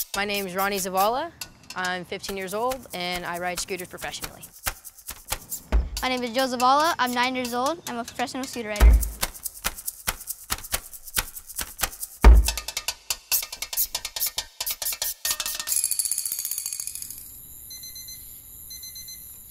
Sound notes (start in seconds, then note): 5.7 tapping In Beat; 11.9 tapping In Beat; 17.6 alarm Goes Off